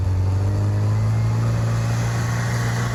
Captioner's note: engine revving